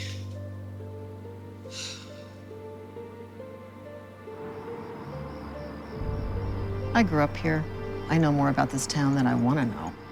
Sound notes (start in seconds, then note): 1.6 exhales